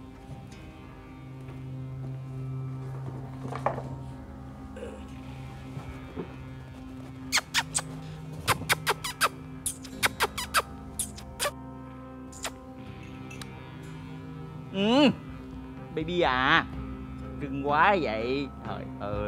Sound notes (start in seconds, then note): 7.0 smooching sound